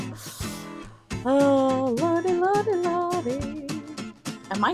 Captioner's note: sing-songy